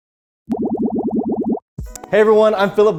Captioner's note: bubbling sounds